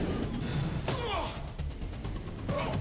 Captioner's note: grunts